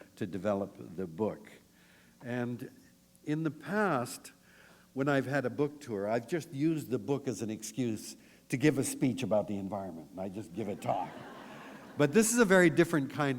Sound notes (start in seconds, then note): 10.8 laughter